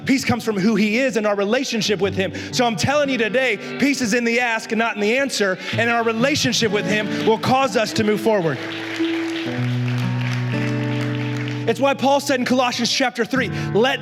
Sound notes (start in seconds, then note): 8.8 la congregación aplaude